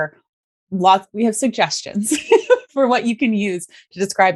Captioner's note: laughs